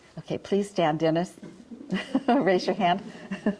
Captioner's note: audience chuckling